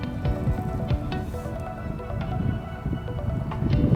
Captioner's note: wind blowing